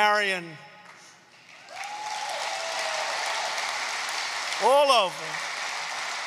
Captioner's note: applause